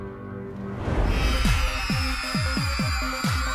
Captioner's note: cheering